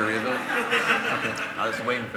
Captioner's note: laughter